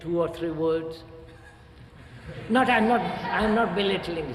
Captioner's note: laughter